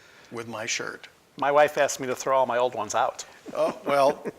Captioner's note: laughing